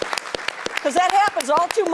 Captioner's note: applause